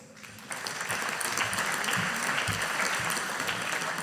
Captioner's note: audience applauding